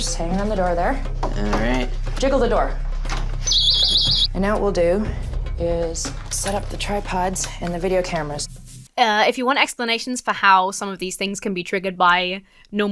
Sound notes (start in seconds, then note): 3.0 door rattles; 3.5 klaxon blares